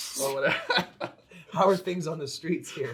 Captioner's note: laughs